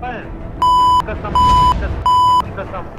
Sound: beep; echo fades

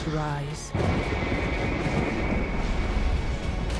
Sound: thunder

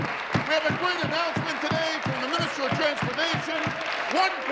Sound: applause

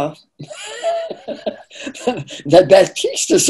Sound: laughing

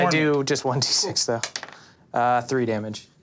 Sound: dice clatters

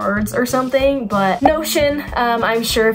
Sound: arrow pops

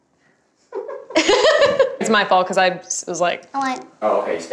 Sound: laughs

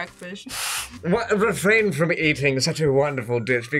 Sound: in "English" accent

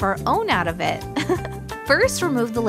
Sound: chuckle

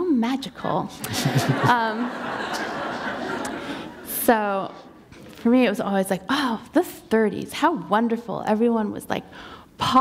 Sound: laughter

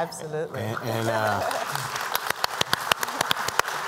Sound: applause

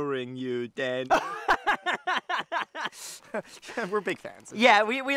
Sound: laughter

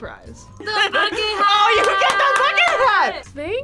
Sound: claps

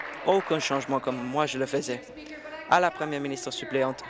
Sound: applause

